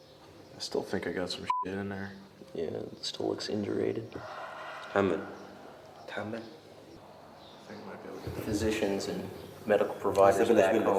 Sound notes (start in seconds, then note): 4.7 Iraqi speaking Arabic